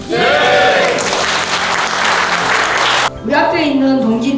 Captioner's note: applause